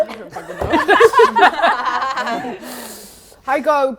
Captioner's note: laughing